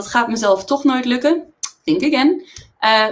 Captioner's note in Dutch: in het engels